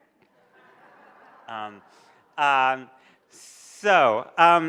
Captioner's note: audience laughs